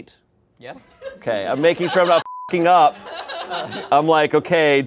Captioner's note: beep